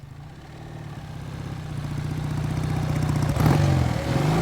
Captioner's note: motorcycle engine roaring